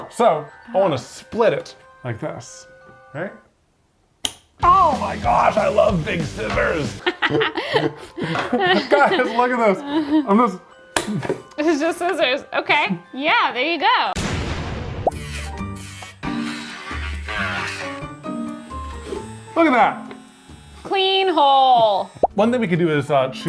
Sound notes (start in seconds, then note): 7.0 laughs; 15.4 spooky music